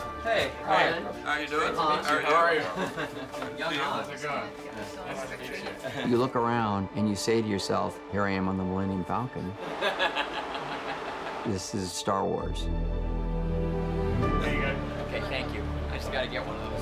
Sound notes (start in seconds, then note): 9.6 laugнs